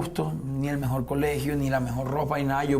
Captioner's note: none